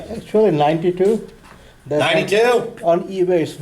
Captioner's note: voiceover